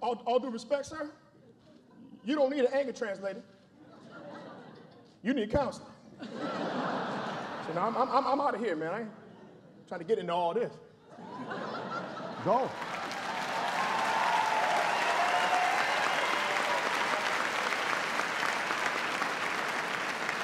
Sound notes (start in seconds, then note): 3.2 laughter; 11.0 laughter; 15.1 applause